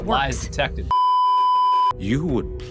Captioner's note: beeeeeeeeeeeep